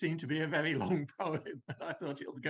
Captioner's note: laughs